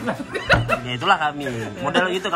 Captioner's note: laughing